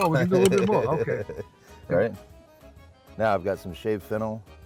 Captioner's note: laughs